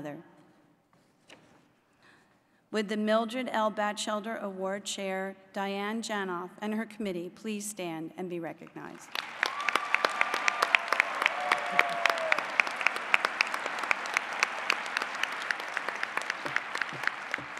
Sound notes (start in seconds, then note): 10.6 applause